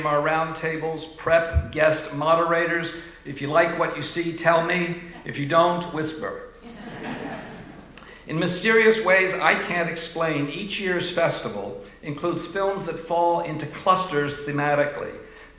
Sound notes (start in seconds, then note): 6.6 audience laughing